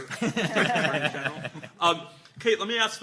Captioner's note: laughing